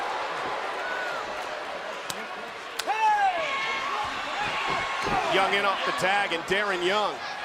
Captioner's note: crowd chatter